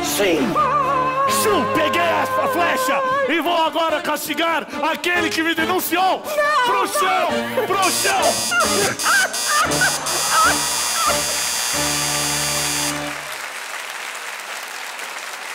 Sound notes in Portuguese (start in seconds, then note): 10.5 campainha e aplausos